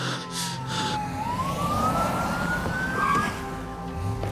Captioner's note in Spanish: Sirenas